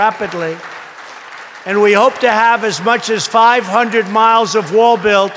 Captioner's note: applause